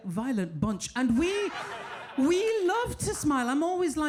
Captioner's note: audience laughing